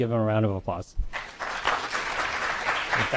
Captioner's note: crowd applauds